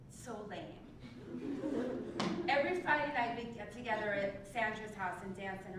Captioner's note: laugh